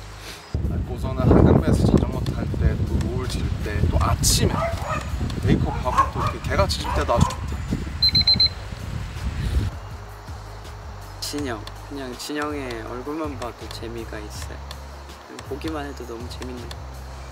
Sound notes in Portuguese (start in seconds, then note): 4.5 latido!